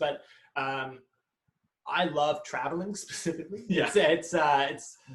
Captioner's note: laughs